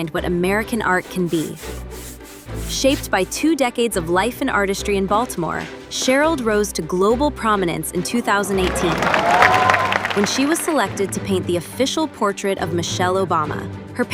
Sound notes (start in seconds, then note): 8.6 audience applauds